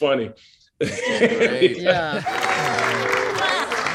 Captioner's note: Jay laughing; diners applauding